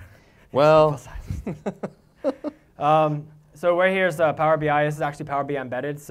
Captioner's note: laugh